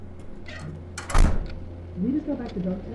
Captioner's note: door opens; door slams shut